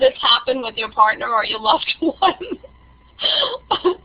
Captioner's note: laughing